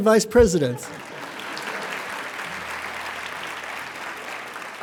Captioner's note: applauding